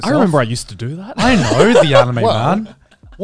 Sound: everyone laughs

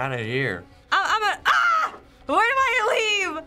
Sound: screams

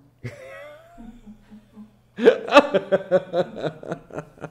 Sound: laughing

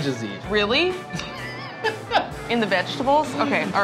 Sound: laughing

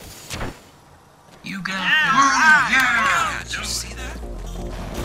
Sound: cheering in encouragement and awe

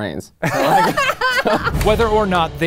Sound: laughing

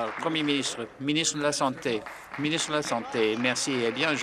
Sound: applause

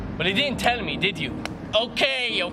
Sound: smack on forehead

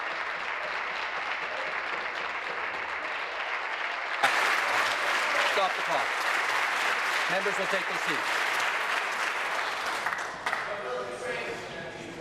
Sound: applause

